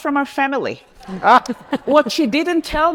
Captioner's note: laughs